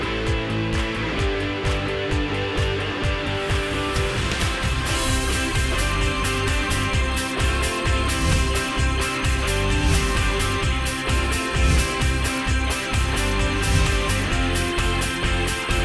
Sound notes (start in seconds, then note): 0.7 dramatic upbeat music continues; 4.4 lively upbeat music; 7.3 words whooshing